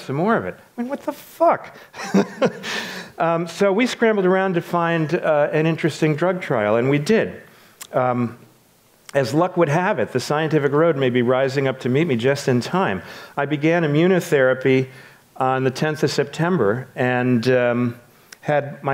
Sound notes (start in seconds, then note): 2.0 laughs